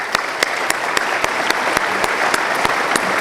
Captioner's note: applause